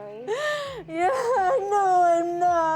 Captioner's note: crying